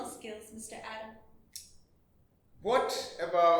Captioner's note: adam clicks tongue